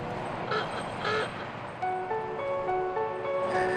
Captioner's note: horn honking